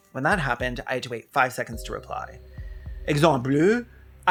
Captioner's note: bad french